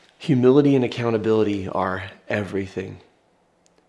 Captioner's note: none